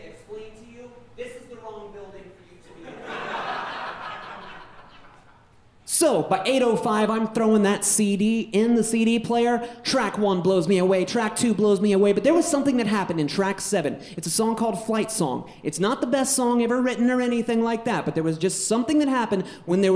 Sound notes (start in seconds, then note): 2.7 audience laughing